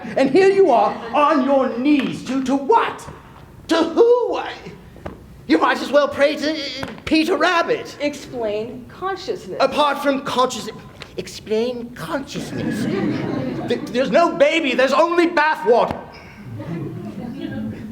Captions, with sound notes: And here you are, on your knees. To- To what? To who? You might as well pray to Peter Rabbit. Explain consciousness. Apart from consciousness. Explain consciousness. [laughter] There's no baby. There's only bathwater.